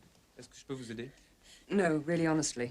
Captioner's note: speaking french